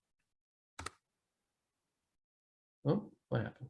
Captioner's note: mouse clicking